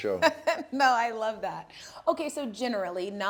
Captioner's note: laughing